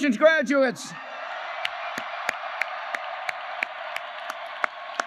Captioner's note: applause